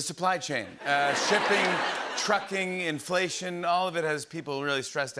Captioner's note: laughter